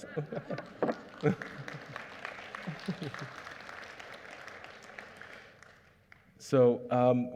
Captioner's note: applause